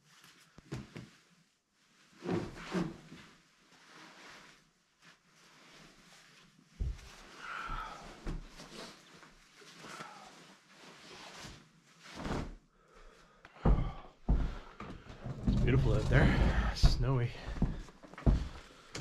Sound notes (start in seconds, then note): 2.2 footsteps